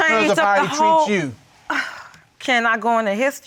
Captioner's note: sighs